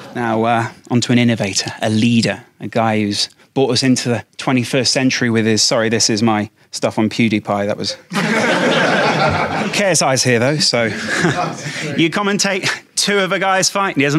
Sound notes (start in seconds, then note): 8.1 audience laughs